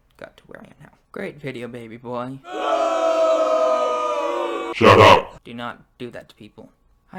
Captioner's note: booing